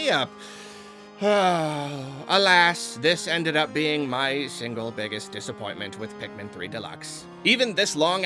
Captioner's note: sigh